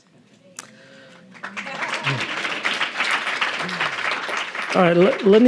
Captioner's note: audience applauding